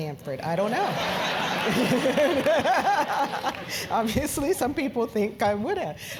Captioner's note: laugh